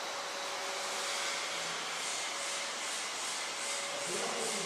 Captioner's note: whirring, rhythmic hissing